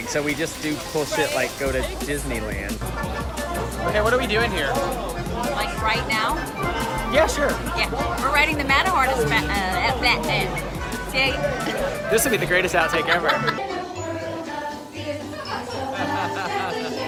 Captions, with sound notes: so we just do cool shit like go to Disneyland. Okay, what are we doing here? - Like right now? - Yeah, sure. - We're riding the manahorsespatuh-uh-blah-blah, okay? - This is gonna be the greatest outtake ever. (woman laughs) (childish music)